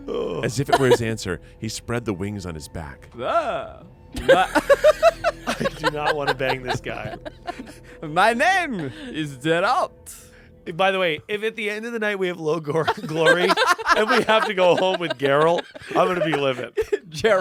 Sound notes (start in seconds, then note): 4.2 everyone laughs